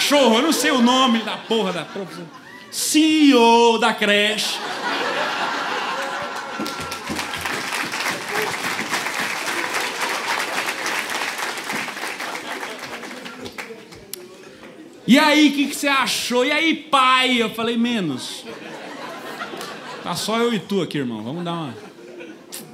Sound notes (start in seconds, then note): 8.6 applause